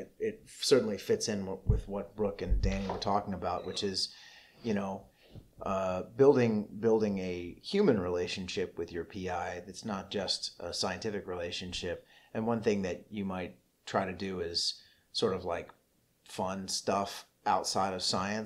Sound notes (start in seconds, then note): none